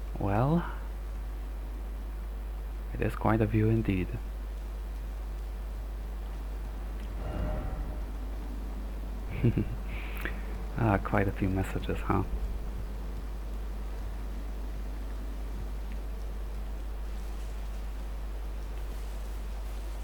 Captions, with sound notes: Well... It is quite a view indeed *chuckles* Ah, quite a few messages, huh?